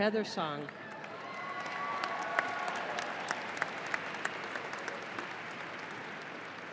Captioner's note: audience applauding and cheering